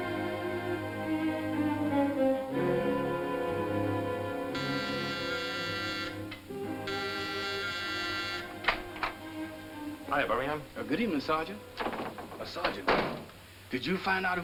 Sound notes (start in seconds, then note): 4.7 doorbell buzzes